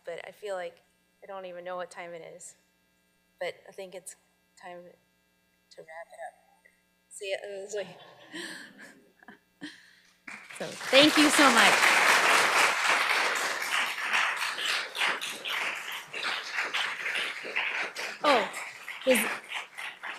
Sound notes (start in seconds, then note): 7.8 chuckles; 12.3 audience applauding